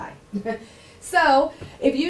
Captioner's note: laughing